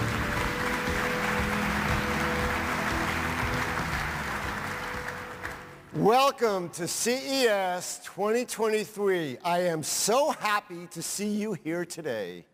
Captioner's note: applause